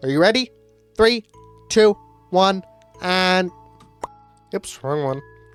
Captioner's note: pop